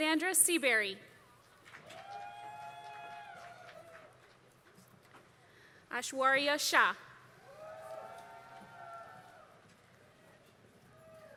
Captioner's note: applause